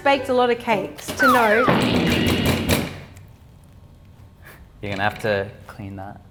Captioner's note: cartoon sounds